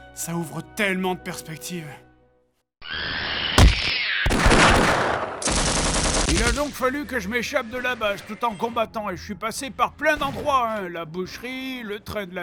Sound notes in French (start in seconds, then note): 2.8 cris d'extra-terrestres; 3.6 paf; 4.2 tirs